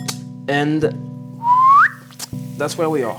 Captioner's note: he whistles